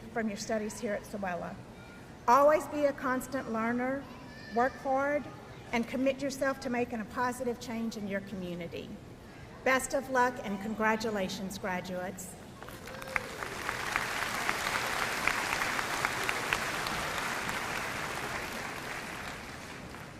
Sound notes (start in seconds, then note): 12.6 audience applauding